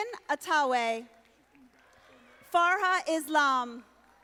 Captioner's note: audience applauding